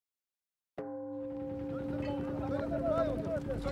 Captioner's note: gong sounds